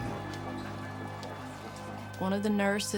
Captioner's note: doctors chatting